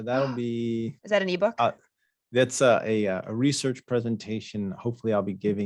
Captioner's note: gasps